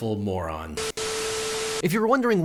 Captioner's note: static buzzing